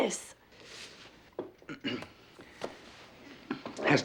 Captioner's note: clears throat